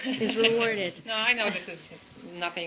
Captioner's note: laughter